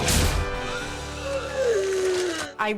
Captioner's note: gasps